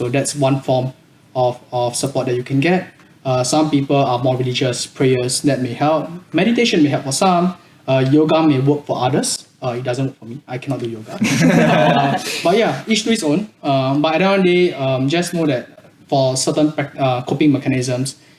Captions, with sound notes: That's one form of support that you can get. Some people are more religious; prayers, that may help. Meditation may help for some. Yoga may work for others. It doesn't work for me, I cannot do yoga. [laughs] Yeah, each to it's own. But end of the day, just know that for certain coping mechanisms,